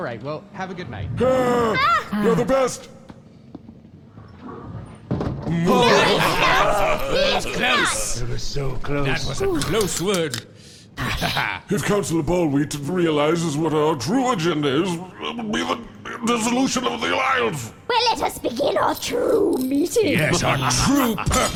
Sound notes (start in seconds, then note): 7.4 they all cackle